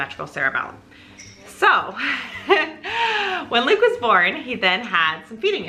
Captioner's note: laughs